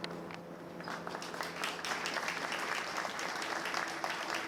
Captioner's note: applause